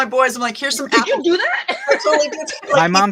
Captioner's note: laughs